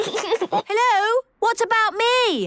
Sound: giggles

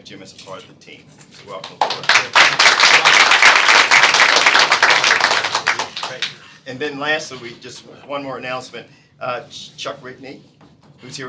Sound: applause

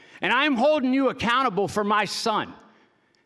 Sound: none

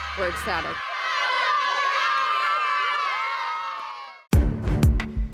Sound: team cheering; hip hop music

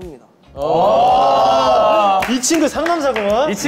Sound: cheering

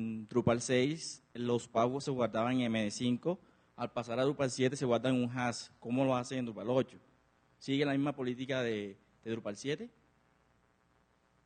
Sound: Spanish

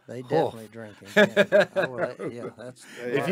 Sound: laughs

